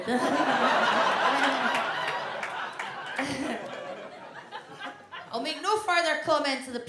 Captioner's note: audience laughs